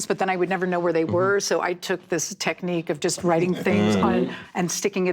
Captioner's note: men laughing